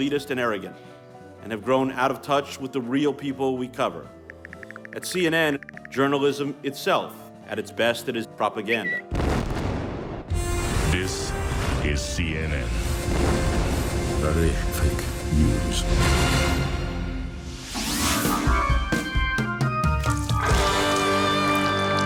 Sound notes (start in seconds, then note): 9.1 explosion booming; 19.4 rock music